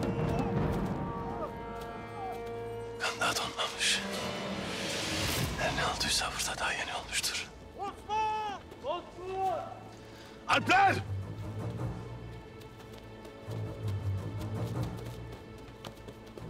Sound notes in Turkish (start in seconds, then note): 0.0 Müzik - Gerilim; 7.8 Bağırma sesleri